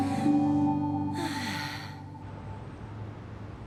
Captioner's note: sighs